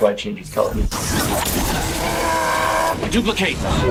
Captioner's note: glass crashing